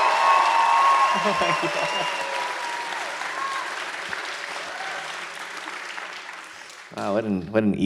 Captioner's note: audience cheers harder; laughs, audience keeps cheering